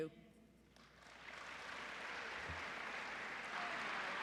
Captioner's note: applause